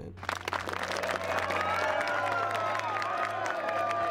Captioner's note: cheering